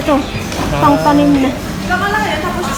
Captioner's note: ah